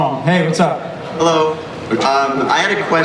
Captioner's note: voiceover